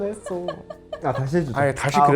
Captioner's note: can't stop laughing, ha ha ha